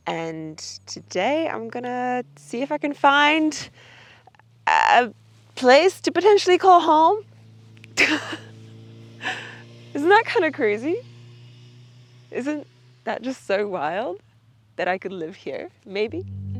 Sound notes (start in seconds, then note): 8.0 laughing